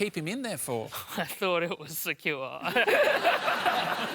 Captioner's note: laughs